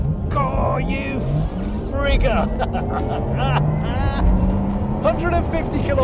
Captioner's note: laughing